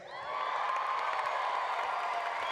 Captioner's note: applause